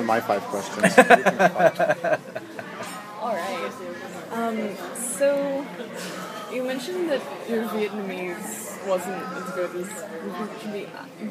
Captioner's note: laughs